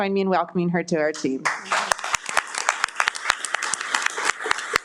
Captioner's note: all applauding